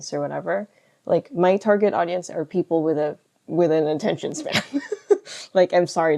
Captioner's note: laughs